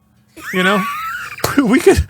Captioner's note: laughing